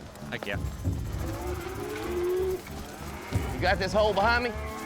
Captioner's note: cattle moo